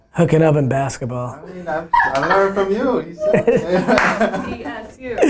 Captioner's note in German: Alle lachen